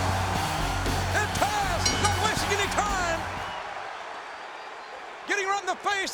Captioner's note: announcer speaking faintly off mic; crowd cheering